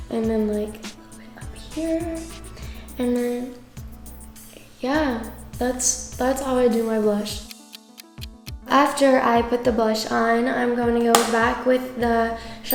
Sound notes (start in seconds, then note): 7.3 clock ticking